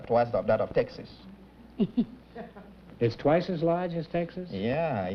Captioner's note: chuckles